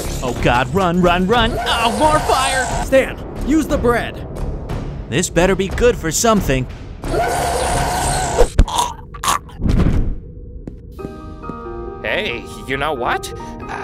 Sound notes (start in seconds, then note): 7.1 creature roars; 8.5 creature chokes